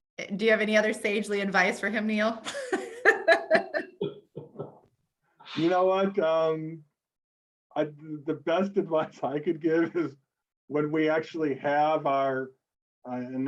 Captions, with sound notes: - Do you have any other sagely advice for him, Neil? (both laugh) - You know what, the best advice I could give is when we actually have our...